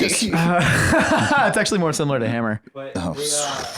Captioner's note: laughs